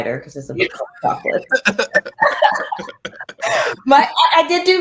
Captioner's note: laughter